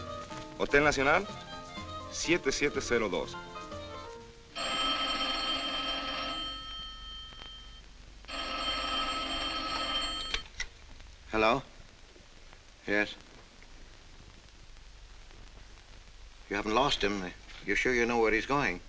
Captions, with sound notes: ¿Hotel Nacional? 7702. [phone rings] Hello? Yes. You're sure you know where he's going?